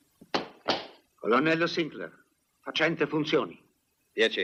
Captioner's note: stamps floor